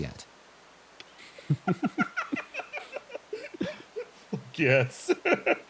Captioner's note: laughs